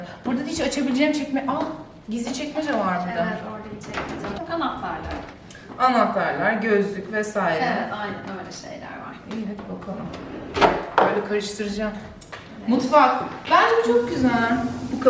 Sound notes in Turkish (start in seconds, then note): none